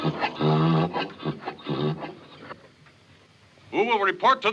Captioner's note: BRAYlNG